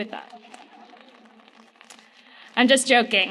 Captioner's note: loud laughter